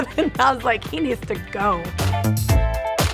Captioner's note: laughing; upbeat music